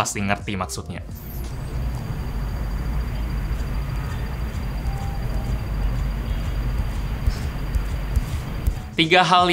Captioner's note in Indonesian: Suara modul getaran Samsung A52